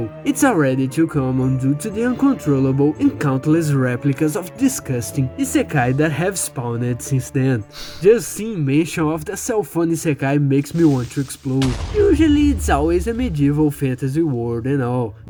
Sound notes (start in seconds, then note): 7.8 sigh